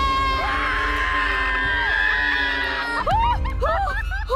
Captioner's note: screaming